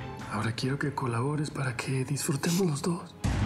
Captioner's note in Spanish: sollozos